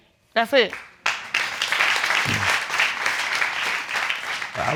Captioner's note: applause